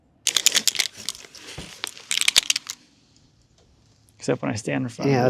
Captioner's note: marker clattering